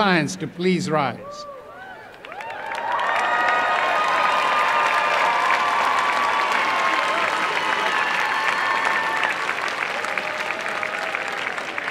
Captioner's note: applause and cheering